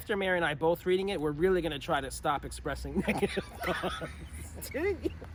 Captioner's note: laughing